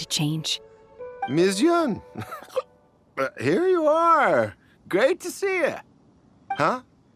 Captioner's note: hic